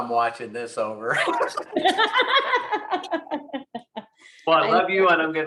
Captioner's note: both laughing